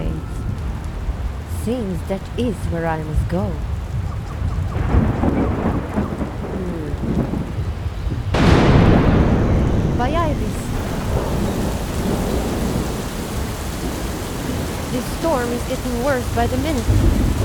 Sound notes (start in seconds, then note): 4.8 thunder Cracking; 8.2 loud lightning strike; 11.5 heavy Rain, Thunder & Lightning